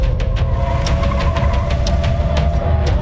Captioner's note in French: crissement de pneus